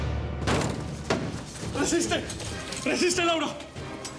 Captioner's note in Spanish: Ruido al abrir la puerta